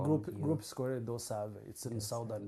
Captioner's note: non-english